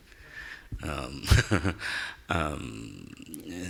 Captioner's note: laughing